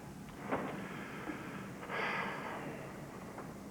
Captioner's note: takes deep breath